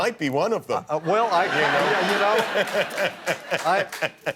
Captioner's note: laughter